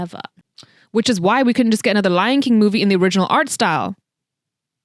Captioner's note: kisses Teeth